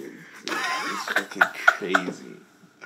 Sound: Rayleigh's laughter

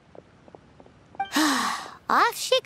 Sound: sigh

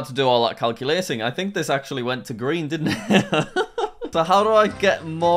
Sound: laughs

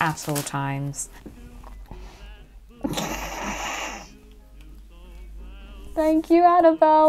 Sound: dastardly snigger

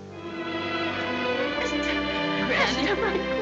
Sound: sobbing

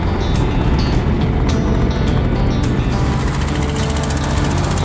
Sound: ATV engines roaring

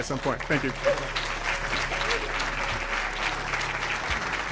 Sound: audience applauds

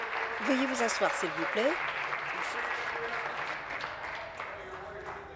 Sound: applause

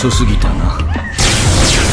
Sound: another woman runs screaming; two more blaster shots

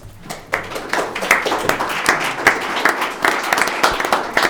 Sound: audience applauding

